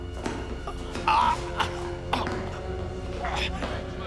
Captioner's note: grunts